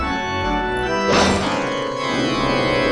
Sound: blam

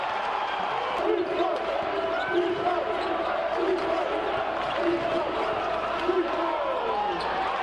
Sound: cheering; audience chanting; cheering

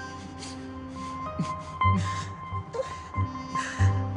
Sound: whimpering; crying

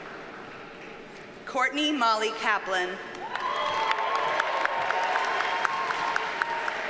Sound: audience cheers and applauds

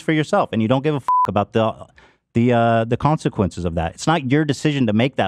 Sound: beeps

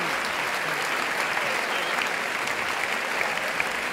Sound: clapping

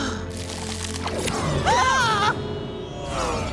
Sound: screaming

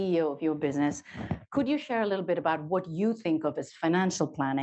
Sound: none

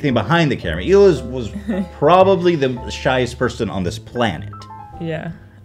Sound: laughs

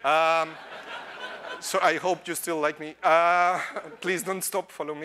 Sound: laughter

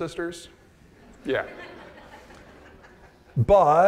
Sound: audience laughing

